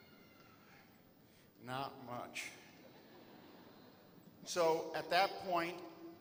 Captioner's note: laughter